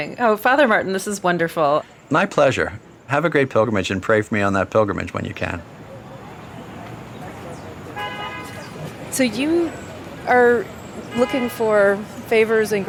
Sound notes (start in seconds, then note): 5.6 birds chirping; 6.1 car horn honking